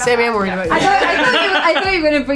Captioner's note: laughing